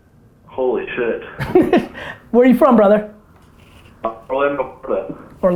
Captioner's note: laughs